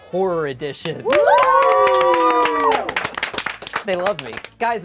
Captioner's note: group cheers